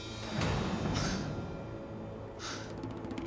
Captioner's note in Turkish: Nefes sesi